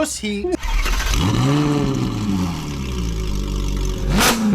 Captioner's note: engine revs